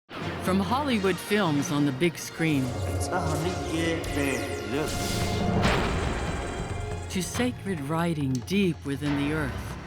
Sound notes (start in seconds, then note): 4.9 explosion echoes